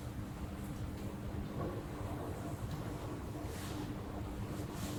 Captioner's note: faint washing machine sounds